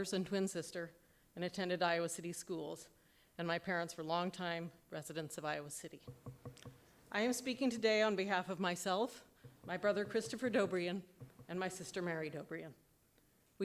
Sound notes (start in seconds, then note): none